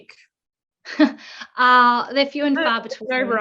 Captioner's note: laughing